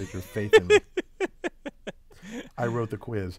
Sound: laugh

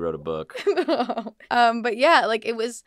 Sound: laughs

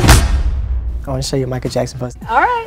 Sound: boom echoes

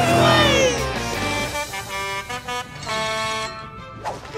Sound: Blaze's horn blowing

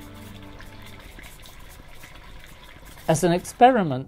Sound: gaseous boiling sounds

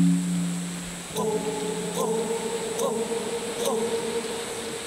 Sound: Distant echoed chant in Havasupai Language

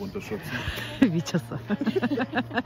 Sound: laughs

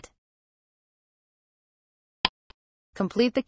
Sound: click sound

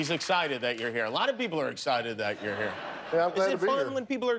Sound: cheers and applause

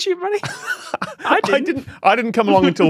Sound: wheezes

